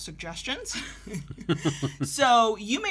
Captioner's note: both chuckle